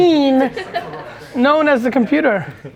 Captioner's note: laughs